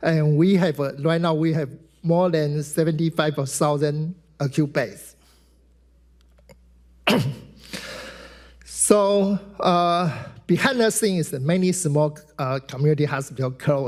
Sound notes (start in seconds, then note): 6.5 mouse clicking; 7.0 clears throat